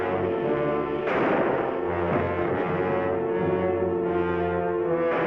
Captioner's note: gunshots bang